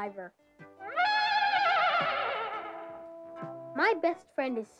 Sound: horse neighs

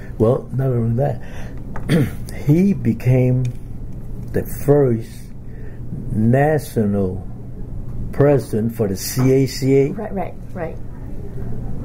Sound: coughs

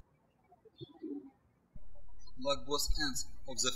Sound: birds chirping

